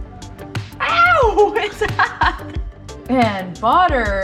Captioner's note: laughs